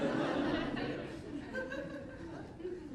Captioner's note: laughs